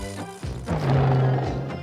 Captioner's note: crash